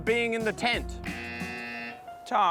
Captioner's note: buzzer